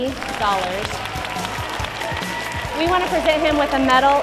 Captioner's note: applause